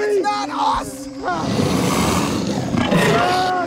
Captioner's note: creature snarls